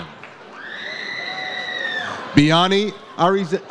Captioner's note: audience cheers